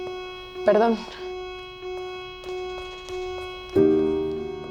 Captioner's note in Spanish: Suena alarma